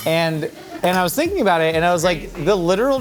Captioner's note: crew laughing